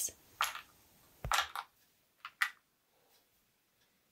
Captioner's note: blocks clattering